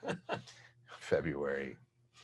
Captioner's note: laughing